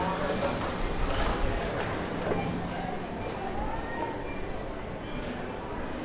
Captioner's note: people chattering